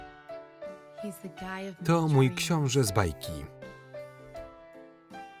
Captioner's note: voiceover